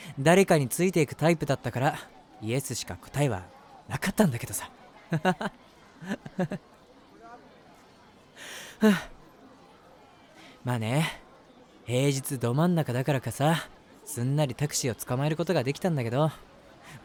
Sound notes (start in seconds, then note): 6.0 laughs